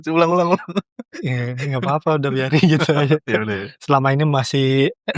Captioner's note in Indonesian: tertawa